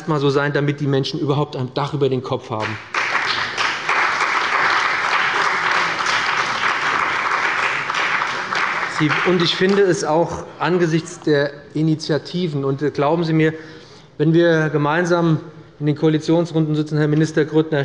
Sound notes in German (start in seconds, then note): 6.7 Beifall bei dem BÜNDNIS 90/DIE GRÜNEN und der CDU